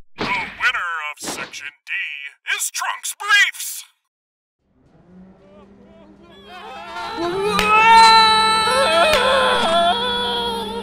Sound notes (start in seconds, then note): 5.4 CONTESTANTS scream; 6.3 CONTESTANT #2 screams; 8.6 CONTESTANT #3 screams